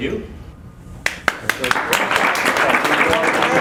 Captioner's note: applause